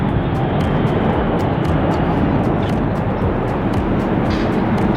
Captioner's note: engine roaring